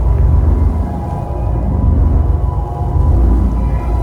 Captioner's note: power pulsing